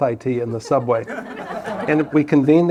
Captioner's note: laughter